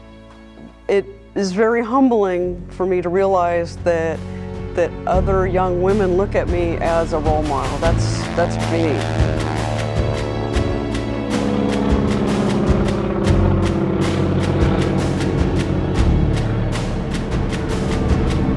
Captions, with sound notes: it is very humbling for me to realize that other young women look at me as a role model. That's big. (airplane engine roaring) (upbeat music)